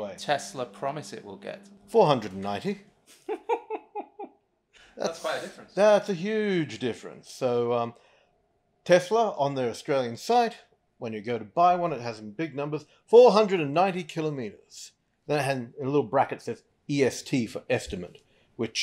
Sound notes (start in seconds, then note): 3.1 laughs